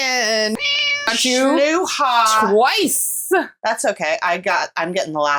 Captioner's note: meow